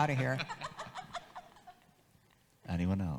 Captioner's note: audience laughs